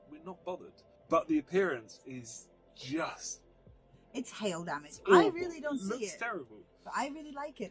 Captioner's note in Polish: jęki